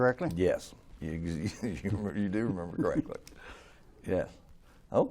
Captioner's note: laughs